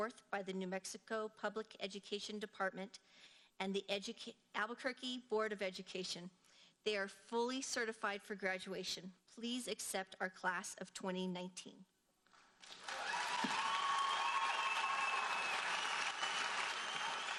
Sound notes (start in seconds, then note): 12.6 audience cheers and applauds